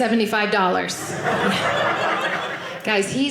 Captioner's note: audience laughing